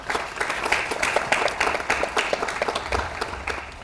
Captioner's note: audience applauds